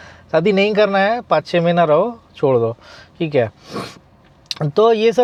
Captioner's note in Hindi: नाक से की जाने वाली आवाज़